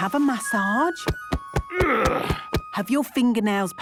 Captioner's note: thumping; moaning